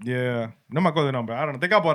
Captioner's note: speaking Spanish